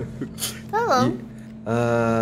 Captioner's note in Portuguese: voz fina